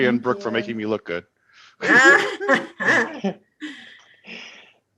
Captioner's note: all laughing